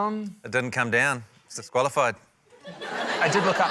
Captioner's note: laughter